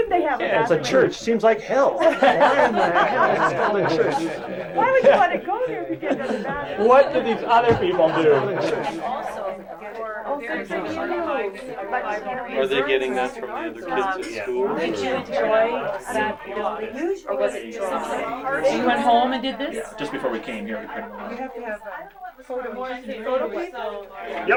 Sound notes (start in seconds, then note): 4.8 crowd laughs; 8.2 crowd laughter; 8.8 crowd chatter